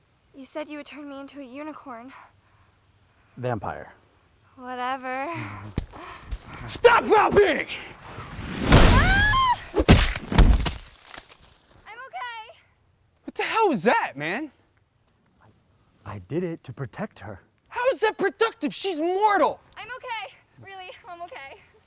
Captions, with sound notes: You said you would turn me into a unicorn. Vampire. Whatever. Stop foul being! *Screaming* *Big Thud* - I'm okay! What the hell was that, man? I did it to protect her. How is that productive? She's mortal! - I'm okay! Really, I'm okay!